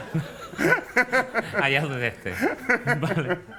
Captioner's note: whispers